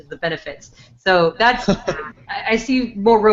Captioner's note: laughs